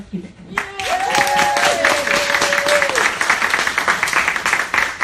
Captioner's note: cheering and applauding